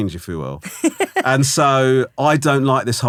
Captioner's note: laughing